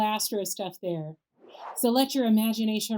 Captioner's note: air whooshes